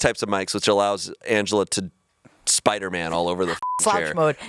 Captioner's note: beep